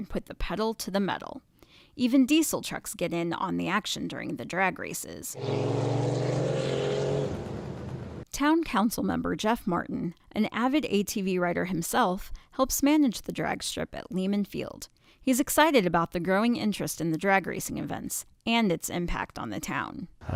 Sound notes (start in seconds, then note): 5.3 engines revving